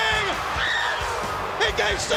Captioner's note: woman screaming